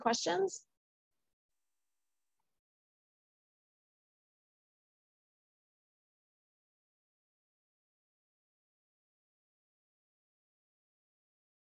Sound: silence

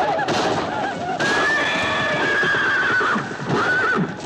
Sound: horse neighing

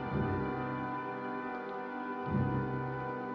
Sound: footsteps

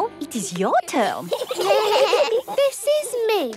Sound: children giggling

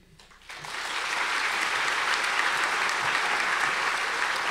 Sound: audience applause

